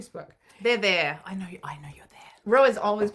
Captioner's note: whispering